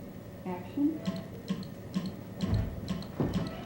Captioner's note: clicks